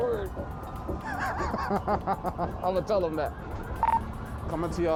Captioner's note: laughs